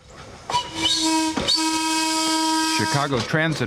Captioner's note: trolley whistle blowing